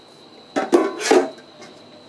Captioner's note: clattering